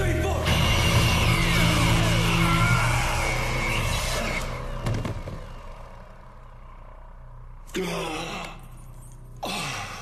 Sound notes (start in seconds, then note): 7.5 gasps